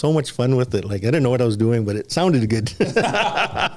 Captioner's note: laughter